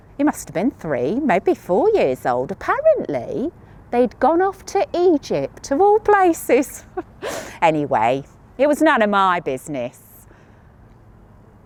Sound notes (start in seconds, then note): 6.8 chuckles